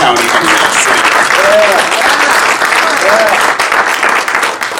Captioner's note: audience applauding